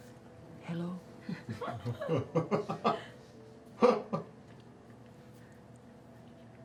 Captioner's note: laughter